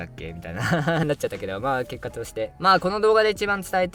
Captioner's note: laughs